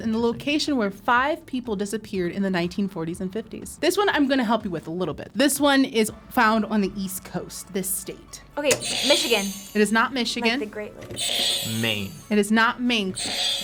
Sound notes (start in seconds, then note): 8.6 buzzer squeaks; 11.1 buzzer squeals